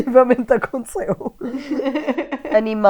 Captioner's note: laughs